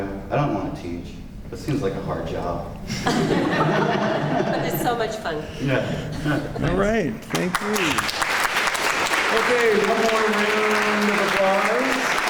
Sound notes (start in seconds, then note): 3.0 laughter; 7.2 clapping